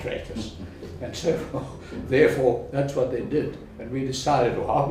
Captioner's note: laugh